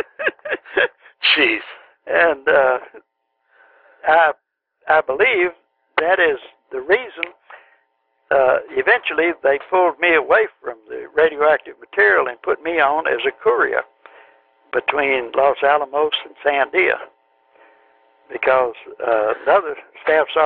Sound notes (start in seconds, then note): 0.0 laughter